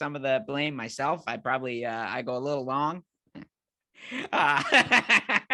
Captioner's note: laughing